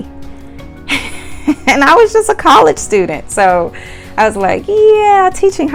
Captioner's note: laughs